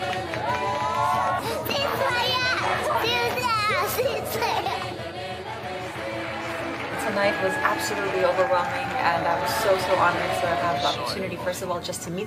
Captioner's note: cheering/Applause